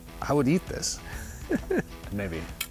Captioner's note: laughs